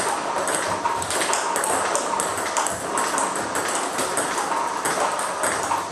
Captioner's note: ball ping pong hitting continues